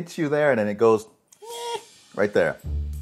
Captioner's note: screeching